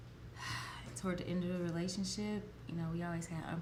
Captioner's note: sighs